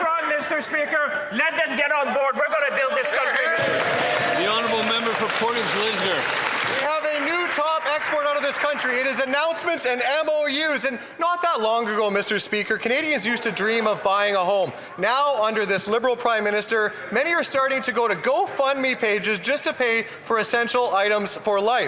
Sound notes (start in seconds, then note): 8.6 some Applause